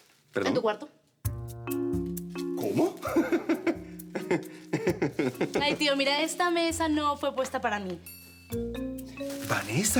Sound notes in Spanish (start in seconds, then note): 6.8 Risas